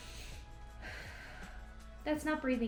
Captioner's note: inhales deeply